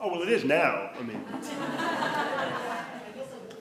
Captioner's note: attendees laughing